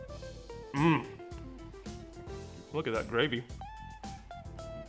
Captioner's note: easy listening music; moans; easy listening music